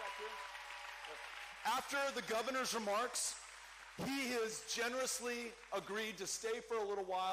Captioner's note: cheering